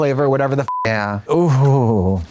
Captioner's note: beep